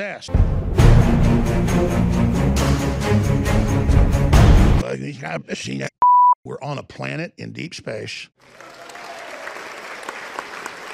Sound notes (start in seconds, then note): 0.3 loud dramatic music; 6.0 high-pitched beep; 8.4 audience applause